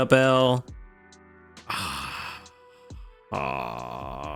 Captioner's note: sighs